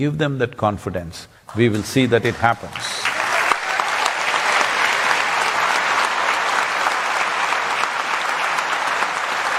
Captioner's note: cheering/Applause